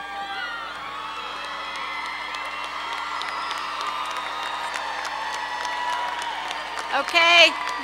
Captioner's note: cheering, clapping